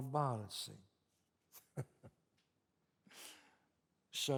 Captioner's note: chuckles